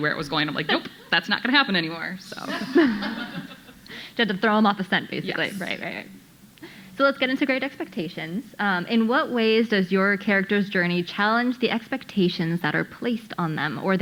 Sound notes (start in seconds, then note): 2.4 audience laughing